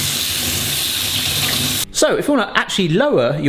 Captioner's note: water running